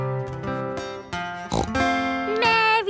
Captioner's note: playing guitar; snorts